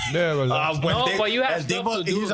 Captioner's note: laughing